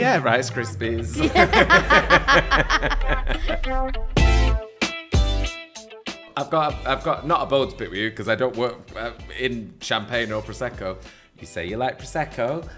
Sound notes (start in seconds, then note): 1.1 laughs